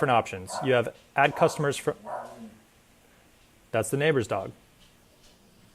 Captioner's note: bark